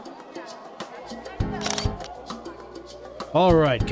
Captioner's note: camera snap